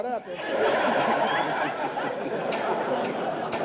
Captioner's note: audience laughter